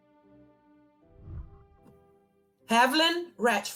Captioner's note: whooshing